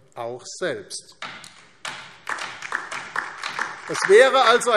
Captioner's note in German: Beifall DIE LINKE